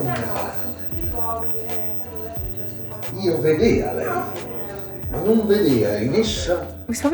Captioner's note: recorded Italian man's voice booms over the staircase